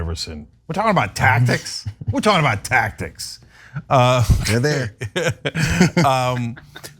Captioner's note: laugh